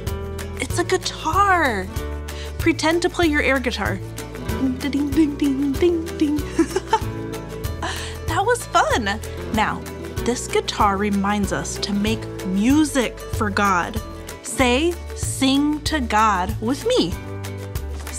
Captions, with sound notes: It's a guitar. Pretend to play your air guitar. Ding ding ding ding ding. (giggles) That was fun. Now this guitar reminds us to make music for God. Say, sing to God, with me.